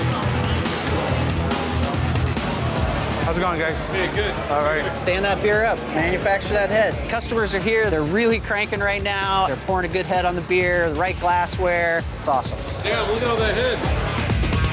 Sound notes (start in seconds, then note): 1.2 crowd chattering